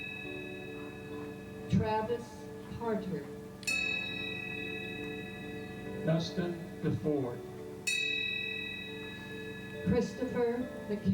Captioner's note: bell ringing